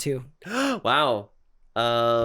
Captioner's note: gasp